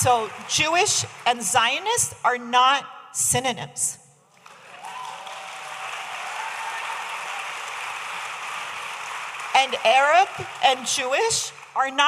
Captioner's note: audience applauding